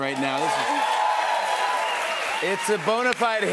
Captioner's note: cheers and applause